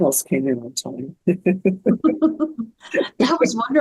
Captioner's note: laughing